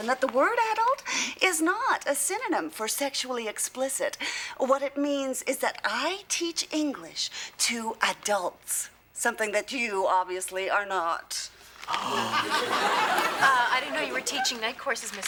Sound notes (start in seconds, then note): 12.2 exclaims